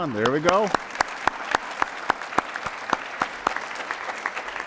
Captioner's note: applause